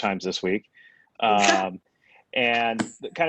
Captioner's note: chuckles